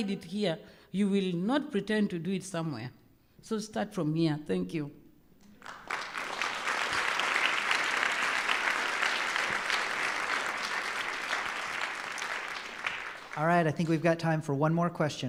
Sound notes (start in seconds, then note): 5.5 applause